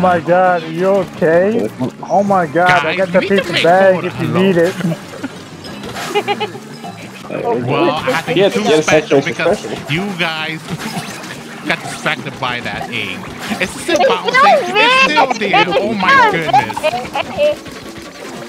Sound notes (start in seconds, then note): 6.5 chuckles; 11.0 chuckles; 17.6 laughing